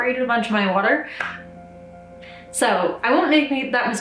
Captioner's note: claps hands